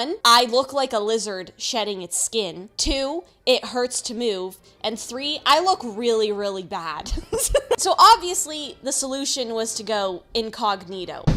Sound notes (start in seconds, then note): 7.1 laughs; 11.2 loud footsteps